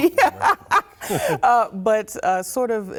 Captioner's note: laughter